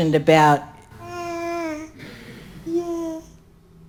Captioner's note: baby babbling